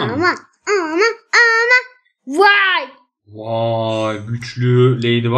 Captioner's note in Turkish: kaba sesle